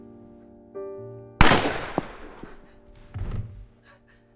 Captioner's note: gun fires; body thuds